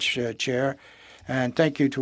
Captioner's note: speaking in French